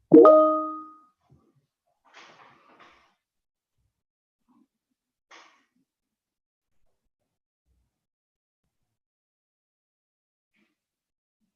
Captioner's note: silence